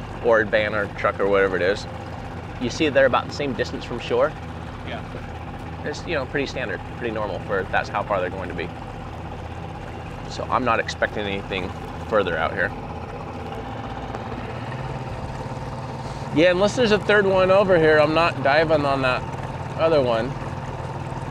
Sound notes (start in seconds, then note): 13.7 engine purring